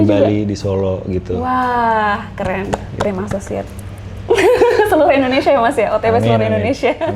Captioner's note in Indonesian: tertawa